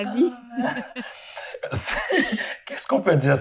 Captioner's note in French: rires